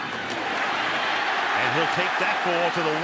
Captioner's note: cheering